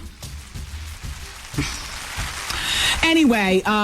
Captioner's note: applause